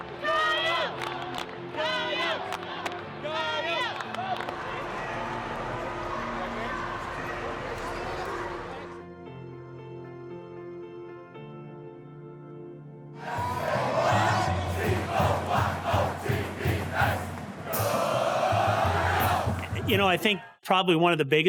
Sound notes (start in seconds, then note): 4.9 cheerleaders chanting; 9.2 light gentle music